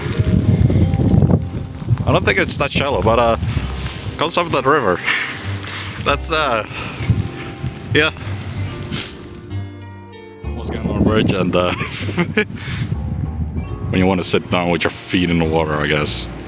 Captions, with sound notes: I don't think it's that shallow but uh. Comes from that river! [Wheeze] That's uh. [Sigh] Yeah. [Sniff] Once again on a bridge and uh. [Chuckles] When you wanna sit down with your feet in the water i guess.